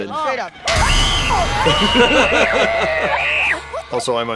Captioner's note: boys shriek